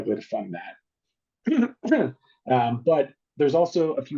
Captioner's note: coughing